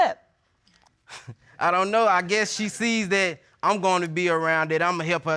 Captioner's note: chuckles